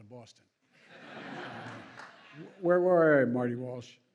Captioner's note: laughter